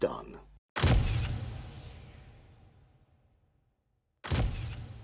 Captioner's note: camera flashing